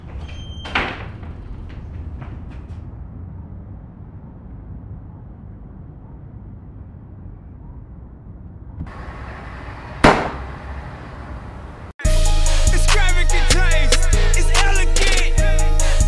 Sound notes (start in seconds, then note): 10.0 gun fires